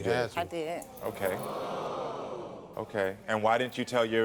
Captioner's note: audience gasping